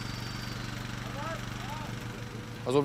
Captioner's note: shouts